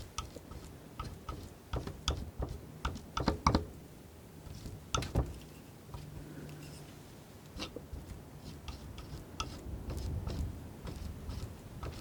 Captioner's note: tapping